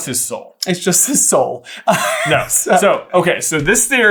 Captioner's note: laughs